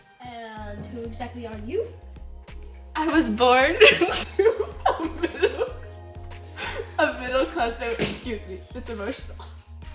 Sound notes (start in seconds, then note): 3.8 sobbing